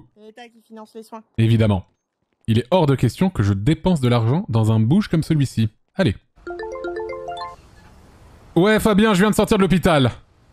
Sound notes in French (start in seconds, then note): 6.4 sonnerie de téléphone